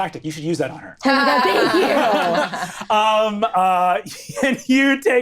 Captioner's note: all laughing